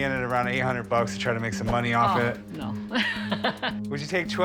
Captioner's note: laughs